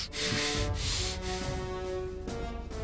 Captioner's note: snorted breaths